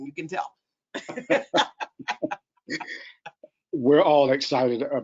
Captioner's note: laughs